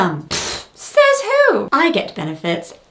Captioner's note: spit take